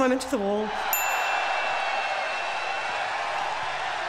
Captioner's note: loud cheering